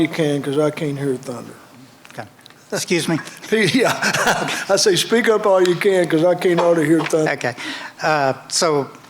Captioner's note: laughter